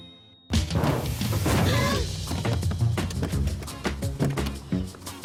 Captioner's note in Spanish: Grito ahogado